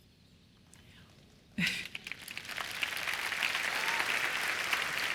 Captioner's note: applause